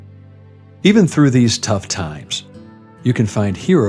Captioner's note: voice-over